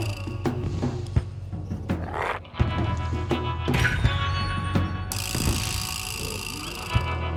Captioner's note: Smelly growls; intense music continues